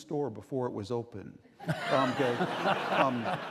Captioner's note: laughing